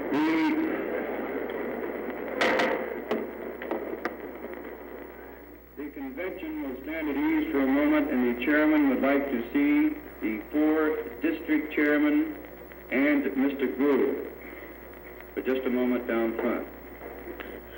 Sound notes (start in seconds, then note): 2.0 gavel knocks